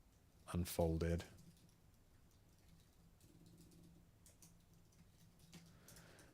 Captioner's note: silence